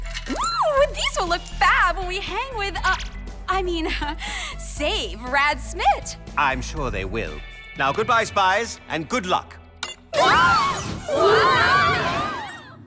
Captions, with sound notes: uh, I mean, save Rad Smitt! I'm sure they will. Now, good-bye, spies. And good luck! [ALL SCREAMING]